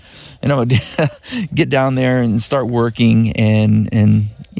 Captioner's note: laughs